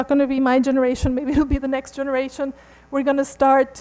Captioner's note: laughs